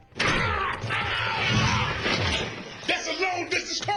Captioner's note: shouting